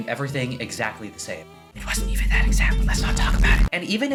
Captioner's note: whispers